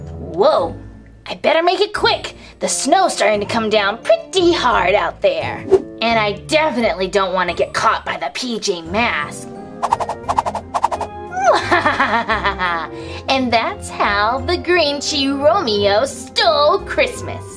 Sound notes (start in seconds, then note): 9.8 whooshing; 11.5 sinister laugh